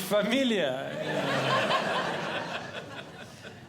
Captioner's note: audience Laughing